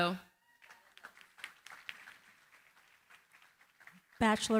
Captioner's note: applause